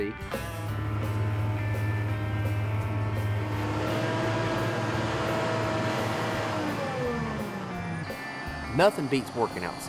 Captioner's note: motor running